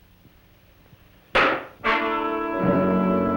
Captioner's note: thud; dramatic music